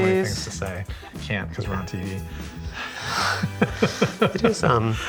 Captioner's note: laughs